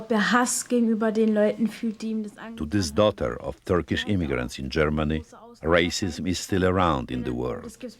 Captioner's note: voice-over